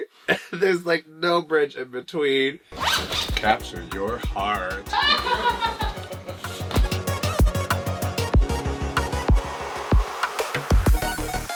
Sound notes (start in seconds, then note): 4.7 judges laugh